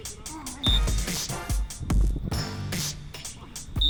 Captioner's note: whistle blows